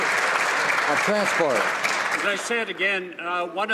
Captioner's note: some Applause